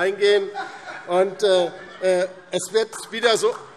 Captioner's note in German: Heiterkeit